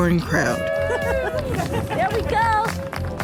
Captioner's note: cheers and applause